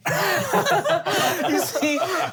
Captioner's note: laughing